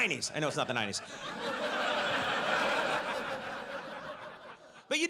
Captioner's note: audience laughs